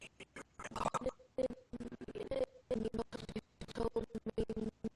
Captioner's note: audio skipping